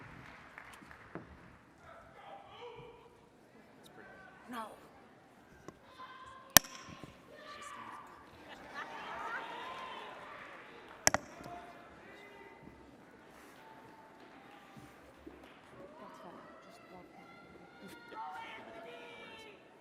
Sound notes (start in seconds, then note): 4.4 attendees chattering; 6.4 attendee shouting; 8.0 attendees laughing; 11.8 attendees shouting; 17.0 attendees shouting